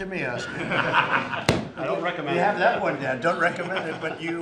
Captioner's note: laughter